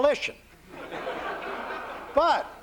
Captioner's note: laughter